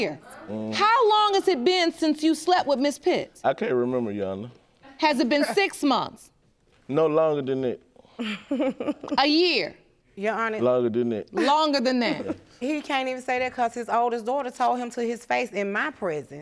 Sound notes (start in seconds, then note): 8.2 chuckling